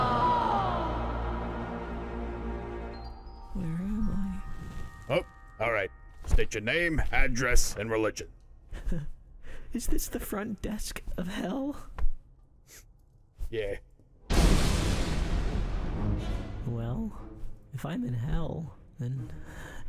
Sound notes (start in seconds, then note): 12.5 sniffle; 14.3 lightning strike